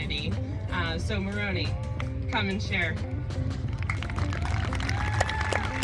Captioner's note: applause